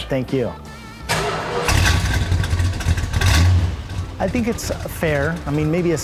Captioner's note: engine roars